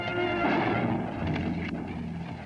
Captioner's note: gunshot